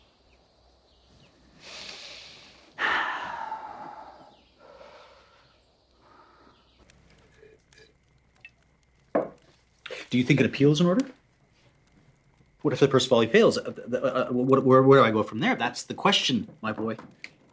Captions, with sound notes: [sighs] Do you think an appeal is in order? What if the first volley fails? Where do I go from there? That's the question, my boy.